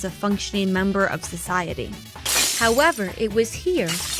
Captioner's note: glass shatters